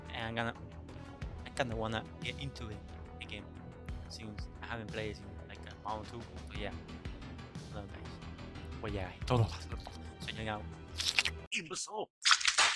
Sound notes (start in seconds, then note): 10.9 slurping noises